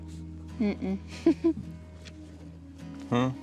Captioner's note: chuckles